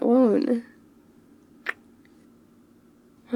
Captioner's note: kiss